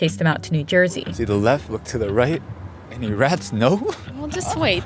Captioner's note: soundbite of street ambience